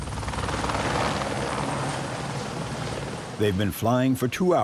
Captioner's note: blades whirring